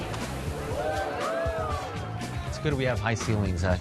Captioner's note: people cheering